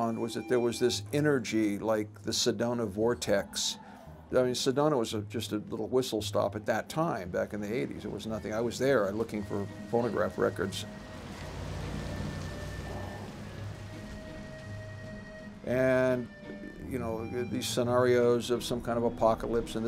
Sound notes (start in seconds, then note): 11.7 water splashing; 14.0 spooky accordion music